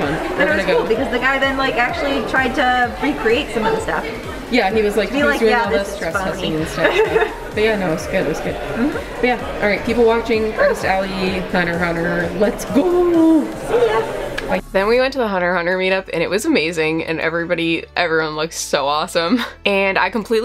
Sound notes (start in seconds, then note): 5.7 laughs